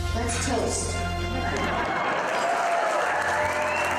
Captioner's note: cheers and applause